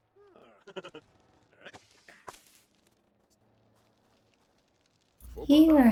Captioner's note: sound of rocks being tossed into fire